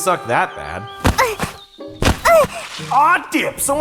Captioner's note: Sylphie groaning